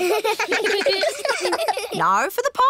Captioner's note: kids giggling